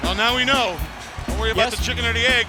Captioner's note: bell ringing